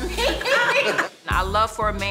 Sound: laughter

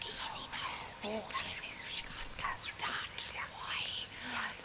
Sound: voices whispering

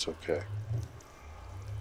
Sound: eerie noise from nether portal

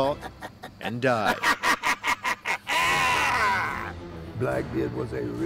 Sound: evil laughter

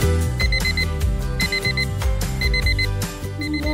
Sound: alarm!

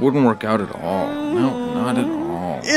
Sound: goat groaning

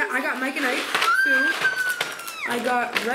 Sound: gasping

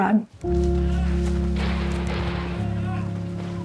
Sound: gun shots

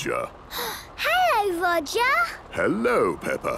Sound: gasps

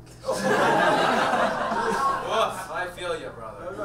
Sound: audience laughs

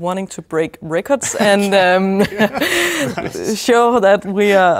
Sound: both chuckling

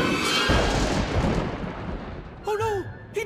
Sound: thunder cracking

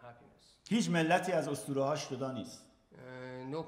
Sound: speaking in farsi

